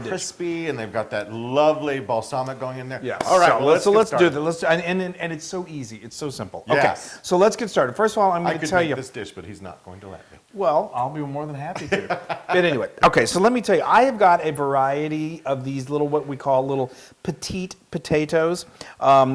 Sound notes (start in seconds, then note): 11.8 laugh